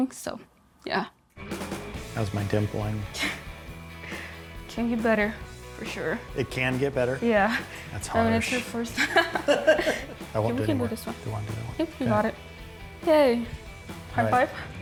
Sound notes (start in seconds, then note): 1.6 upbeat music; 3.7 laughs; 8.9 laughing